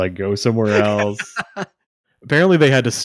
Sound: laughing

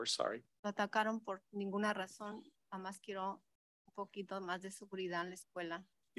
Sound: speaks in Spanish

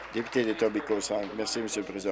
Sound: applause

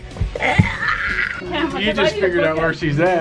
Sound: groaning comically; laughs

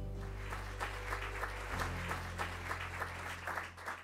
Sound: audience applauding

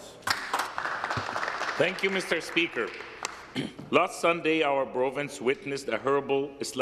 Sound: applause

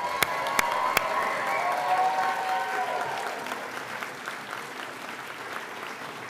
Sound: audience applauding and cheering

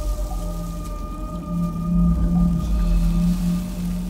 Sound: plastic crumpling, breathe hissing

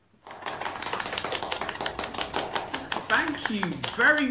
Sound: participants clapping

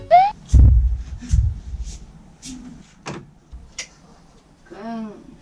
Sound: thump

